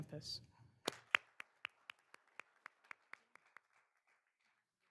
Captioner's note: all applauding